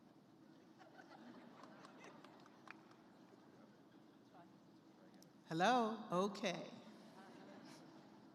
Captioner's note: laughter